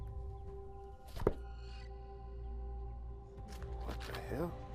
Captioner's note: book thuds